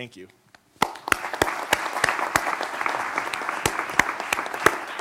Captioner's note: applause